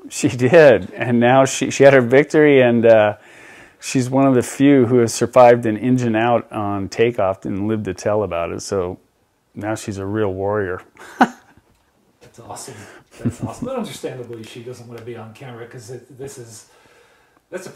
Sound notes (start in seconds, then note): 11.0 laughs